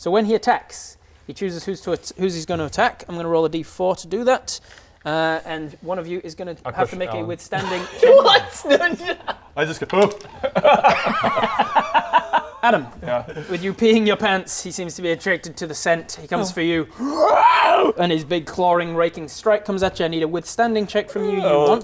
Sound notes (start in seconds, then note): 10.2 cowardly laugh; 17.0 wrwrrarrgghh!